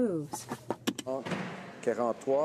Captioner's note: speaking French